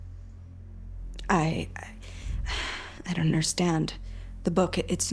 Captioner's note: sighs